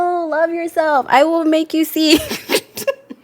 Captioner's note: laughs